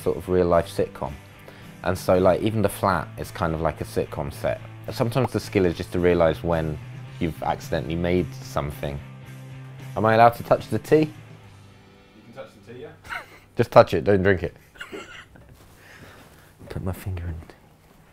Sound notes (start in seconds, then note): 14.6 chuckles